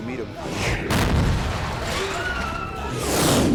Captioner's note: explosions